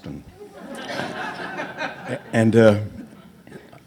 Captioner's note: audience laughs